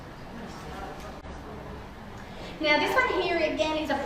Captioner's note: audience chatter